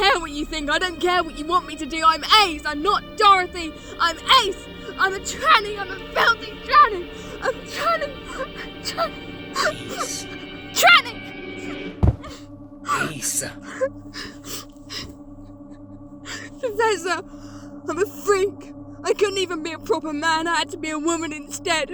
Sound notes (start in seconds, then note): 12.0 Ace collapses to her knees, sobbing; 12.8 Ace sobbing